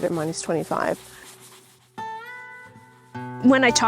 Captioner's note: sandpaper whooshing